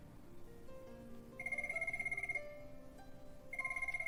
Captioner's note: phonene ringing